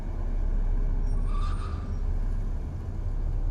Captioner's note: tires screeching